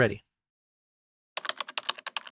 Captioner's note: typing